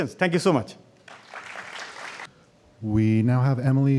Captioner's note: applause